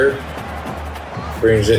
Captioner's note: crowd Noises